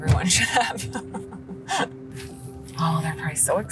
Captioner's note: laughs